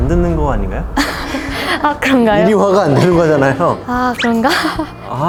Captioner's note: laughter, deep realization